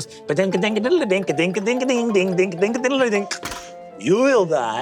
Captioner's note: mimics plinking toy music